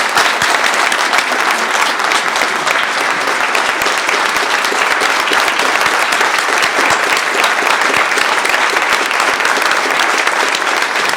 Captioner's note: applause